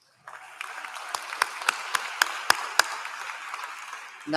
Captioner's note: applause